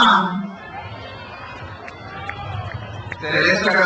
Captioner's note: crowd cheers